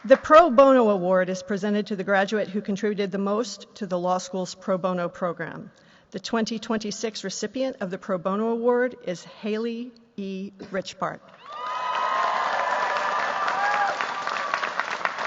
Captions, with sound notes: The Pro Bono Award is presented to the graduate who contributed the most to the law school's Pro Bono program. The 2026 recipient of the Pro Bono Award is Haley E. Richbart. [CHEERS, APPLAUSE]